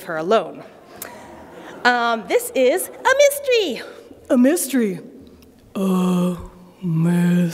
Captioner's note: laughter